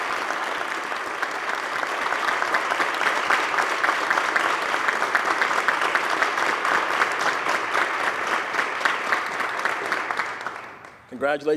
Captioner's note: applause